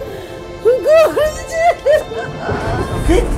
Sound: crying

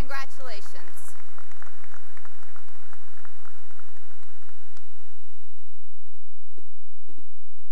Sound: applause

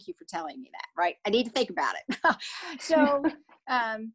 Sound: laughs

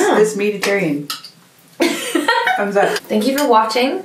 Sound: laughing

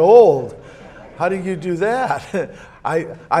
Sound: audience laughs

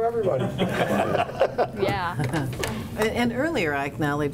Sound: laughing

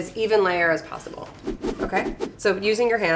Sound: whooshing

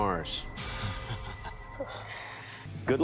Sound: chukles

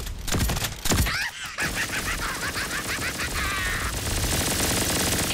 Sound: more manical laughter

